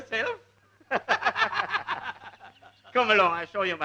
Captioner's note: laughing